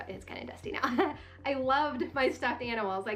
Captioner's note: laughing